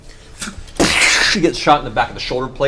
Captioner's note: explosion